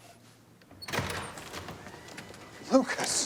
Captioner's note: door open close